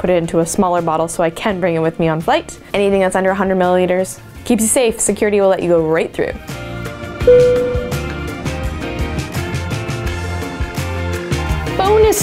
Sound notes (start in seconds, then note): 7.2 dinging; 9.1 upbeat music